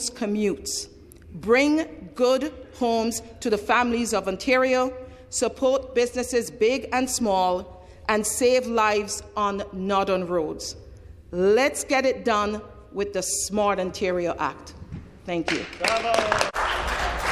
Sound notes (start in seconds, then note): 15.4 applause